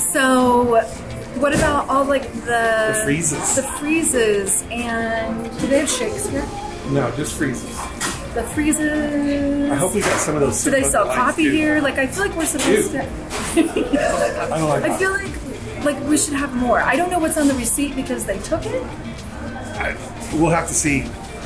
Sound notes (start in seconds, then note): 13.4 laughing softly